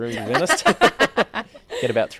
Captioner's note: all laugh